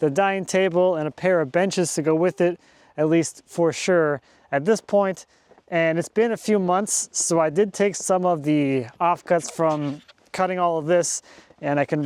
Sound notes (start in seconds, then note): none